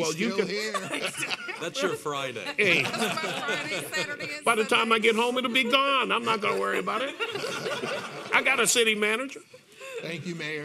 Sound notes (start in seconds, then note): 8.0 panel members laughing